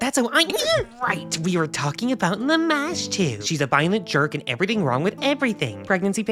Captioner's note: startled yelp